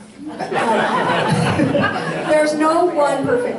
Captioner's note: audience laughs